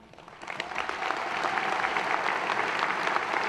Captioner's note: applause